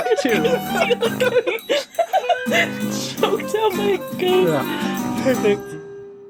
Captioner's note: laughing